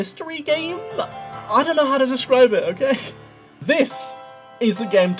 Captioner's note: laughs